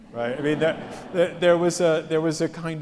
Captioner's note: audience laughs